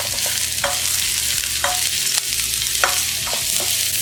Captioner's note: sizZzle